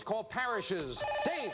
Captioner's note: buzzer